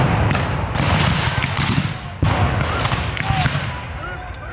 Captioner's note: guns fire